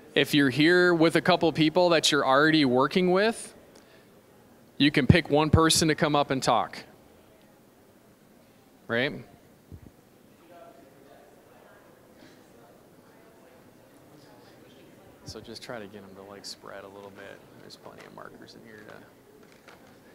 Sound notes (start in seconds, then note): 7.9 general chatter; 19.9 general chatter